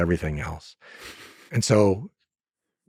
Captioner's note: Lex laughs